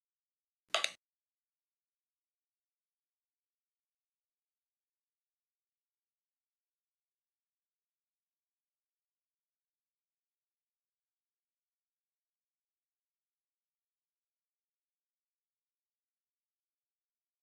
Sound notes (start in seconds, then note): 0.7 minute Clicks